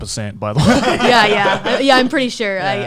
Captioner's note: laughs